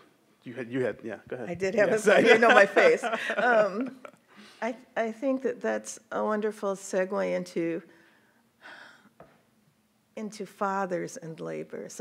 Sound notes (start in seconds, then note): 1.8 laughs; 8.9 sighs